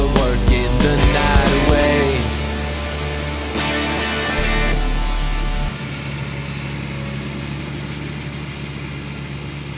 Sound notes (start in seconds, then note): 6.0 motor hums